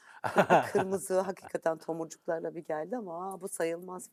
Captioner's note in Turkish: kahkaha